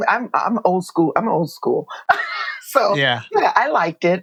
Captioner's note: laughter